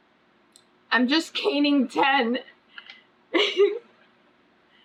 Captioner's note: laughs